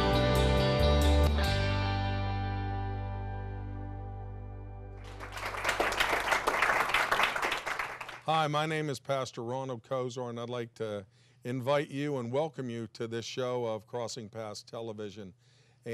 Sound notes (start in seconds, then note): 5.0 applauding